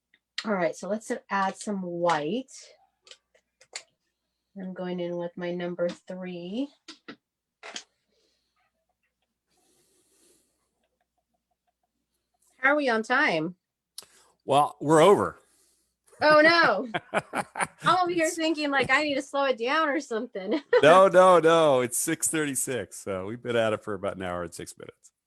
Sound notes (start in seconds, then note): 16.3 laughs